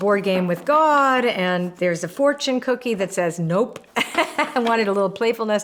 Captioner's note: laughs